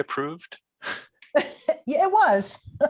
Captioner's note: laughing